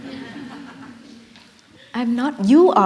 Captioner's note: laughter